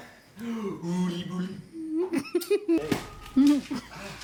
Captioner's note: laughing